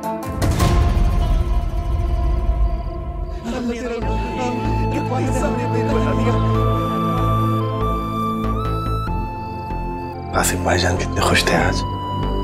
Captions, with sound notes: [gloomy music playing] [indistinct chatter] Brother Qasim was so happy today.